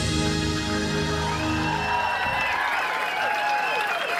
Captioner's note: cheering and applause